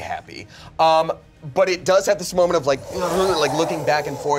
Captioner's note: groans